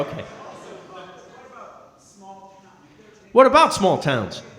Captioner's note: speaking softly